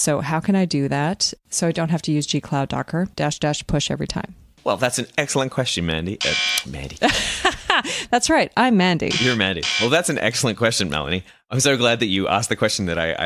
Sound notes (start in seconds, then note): 6.2 honk; 7.0 laughs